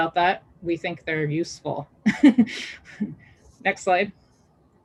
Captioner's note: chuckles